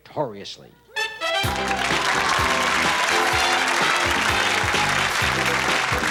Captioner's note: theme music playing; cheers, applause